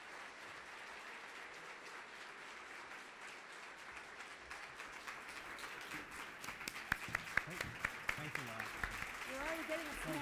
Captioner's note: applause